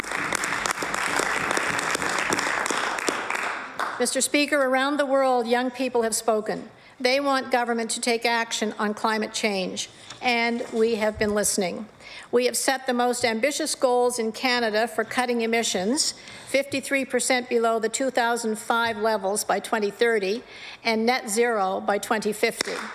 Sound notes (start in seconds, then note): 7.5 applause